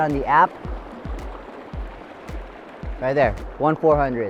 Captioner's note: running water